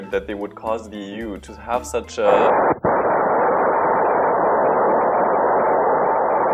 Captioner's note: detonation